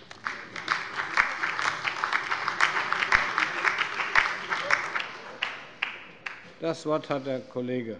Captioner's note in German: Beifall bei dem BÜNDNIS 90/DIE GRÜNEN und der LINKEN